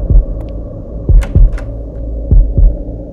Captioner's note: Cupboards door opens